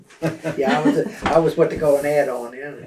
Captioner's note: laughter